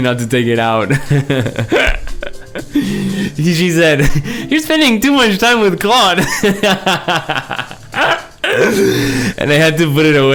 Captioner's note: laughs